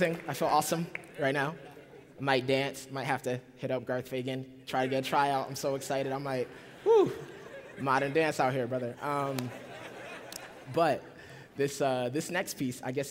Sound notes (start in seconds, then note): 9.5 laughter